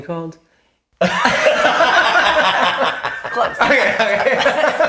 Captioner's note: laughing